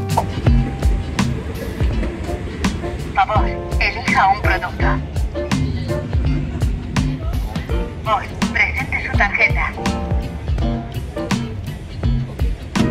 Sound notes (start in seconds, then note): 0.1 transition whooshing; 3.2 machine speaking in foreign language